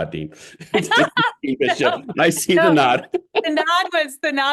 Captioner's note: laugh